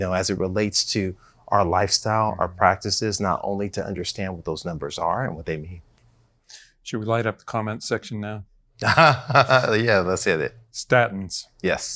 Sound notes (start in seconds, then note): 8.8 laughs